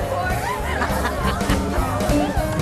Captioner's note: laughing